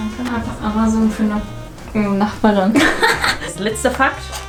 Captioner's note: weird laugh